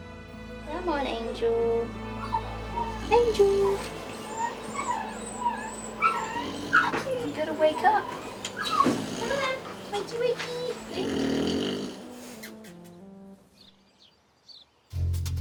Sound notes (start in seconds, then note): 5.3 dogs whining; 6.9 Angel snoring; 9.5 Angel snoring